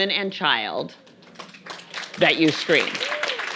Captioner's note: audience applauding